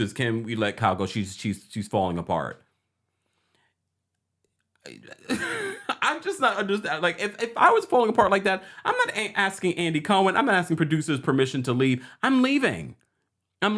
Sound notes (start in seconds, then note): 4.8 chuckles